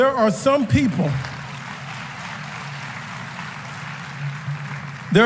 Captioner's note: applause